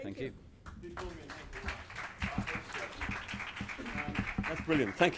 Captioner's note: audience clapping